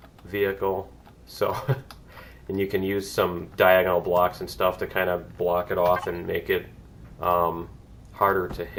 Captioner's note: laughs